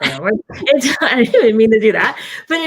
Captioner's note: laughs